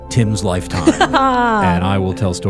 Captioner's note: laughing